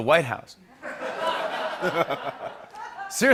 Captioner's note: laughter